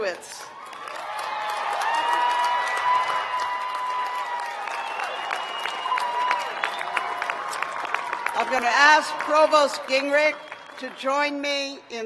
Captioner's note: cheers and applause